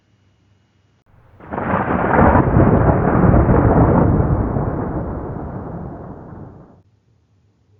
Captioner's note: thunderclap